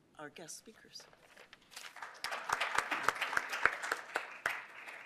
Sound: applause

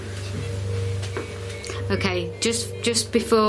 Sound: loud beeping

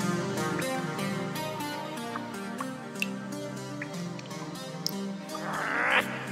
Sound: echoed dripping

